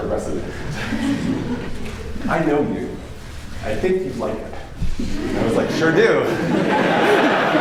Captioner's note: laughter